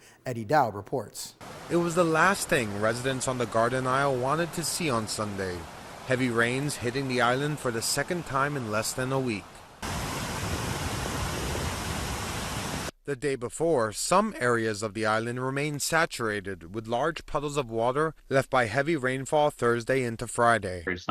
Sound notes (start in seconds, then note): 10.0 water rumbling